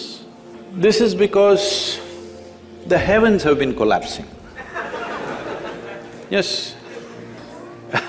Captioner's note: few laugh